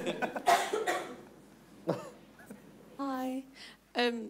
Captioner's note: everyone laughing